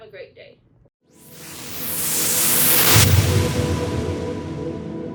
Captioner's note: whooshing